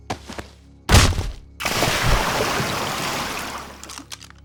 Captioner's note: foot thuds